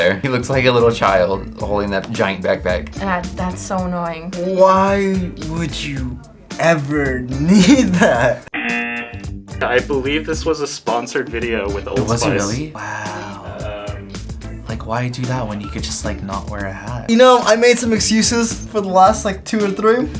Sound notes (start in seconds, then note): 7.4 laughs; 8.5 buzzer rings